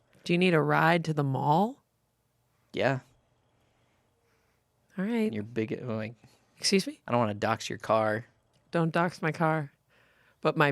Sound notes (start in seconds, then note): none